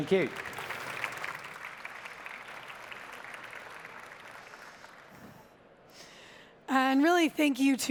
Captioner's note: applause